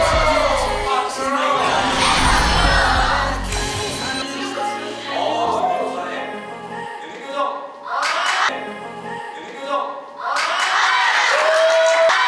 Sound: applause

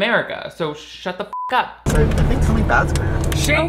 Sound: beep

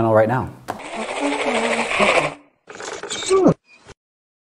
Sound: toy noise maker

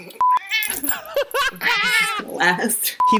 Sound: meow; laughter

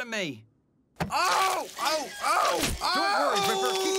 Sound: screaming

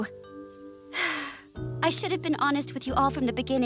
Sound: sighing

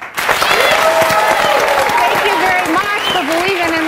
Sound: audience applauds

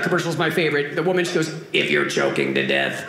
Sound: robotic voice

